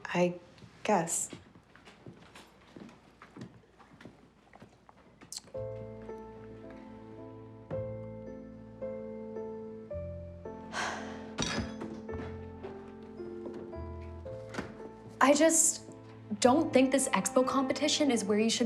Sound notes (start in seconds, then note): 5.8 soft music; 10.7 sighing